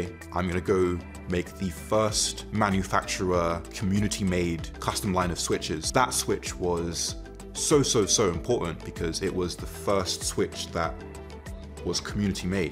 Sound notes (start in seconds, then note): none